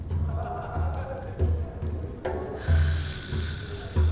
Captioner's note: muffled laughter can be heard; snoring